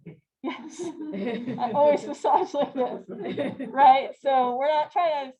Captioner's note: laughter